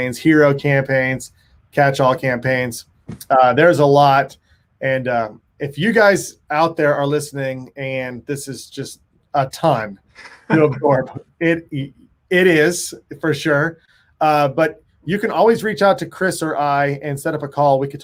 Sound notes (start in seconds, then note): 10.2 laughs